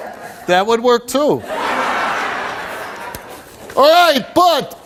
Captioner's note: audience laughs